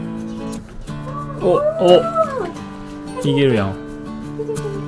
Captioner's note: laughs